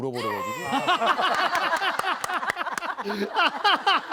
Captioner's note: just cries right away